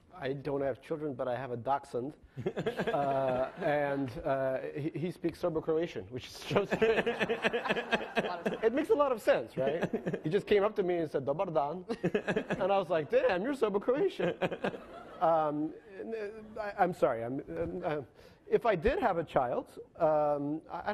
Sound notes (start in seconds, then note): 2.4 laughing; 6.6 laughing; 11.4 speaks in foreign language; 14.2 laughing